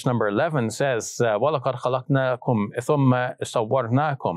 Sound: speaks in Arabic

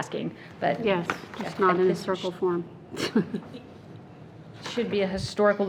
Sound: laughing

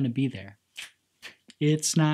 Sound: snap and clap

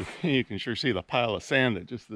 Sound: footsteps sloshing

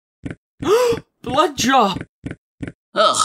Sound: gasp

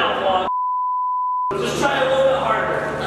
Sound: beeping

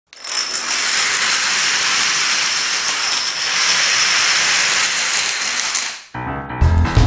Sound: sound of dominoes falling

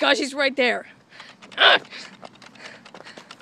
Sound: grunts

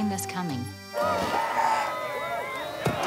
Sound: crowd cheering

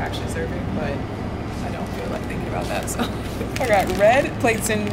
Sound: laughing

